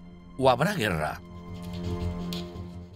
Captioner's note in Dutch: ganzenveer schraapt